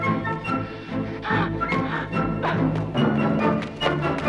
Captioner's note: guard grunts; Hundra gasps